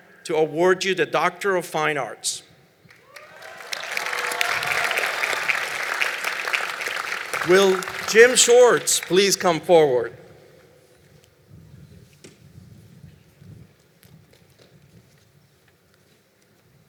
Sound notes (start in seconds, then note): 2.9 applause